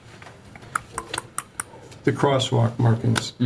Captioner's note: tongue clicking